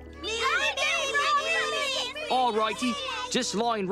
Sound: overlapping excited chatter

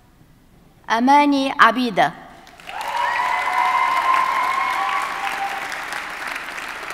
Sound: audience cheers and applauds

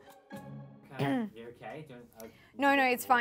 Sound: clears throat; talking in background

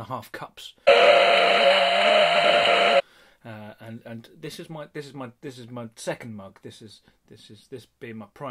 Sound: screaming

